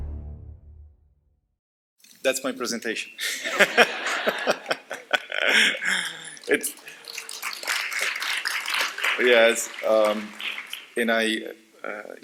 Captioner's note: laughter; applause